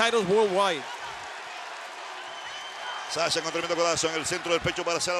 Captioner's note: applause